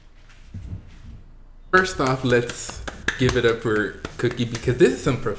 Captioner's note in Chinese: 掌聲鼓勵!!!